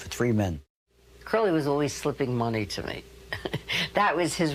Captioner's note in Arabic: يضحك